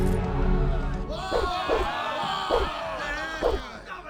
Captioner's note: crew's shouts and the clang of swords